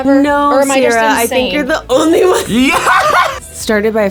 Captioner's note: laughs